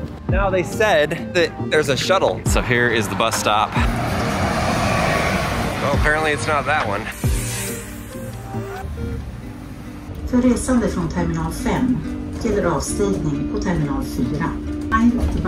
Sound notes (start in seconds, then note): 0.0 upbeat music; 4.3 bus whooshing; 7.2 upbeat music; 10.6 bus announcement in foreign language